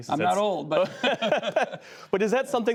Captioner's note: laughter